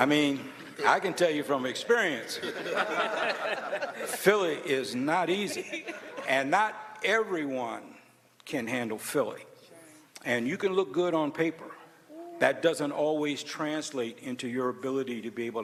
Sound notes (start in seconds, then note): 2.2 laughter